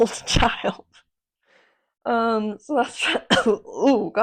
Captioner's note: cough